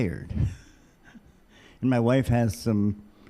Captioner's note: laughing